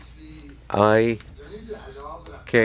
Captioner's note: speaking in French